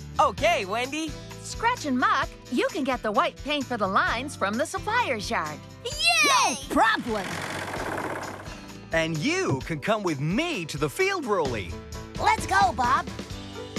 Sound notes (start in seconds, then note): none